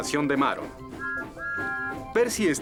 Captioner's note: toot-Toot!